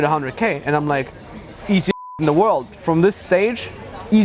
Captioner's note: beep